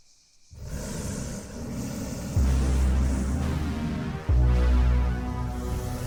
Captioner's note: hissing and growling